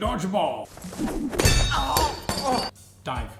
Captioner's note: wrench clanging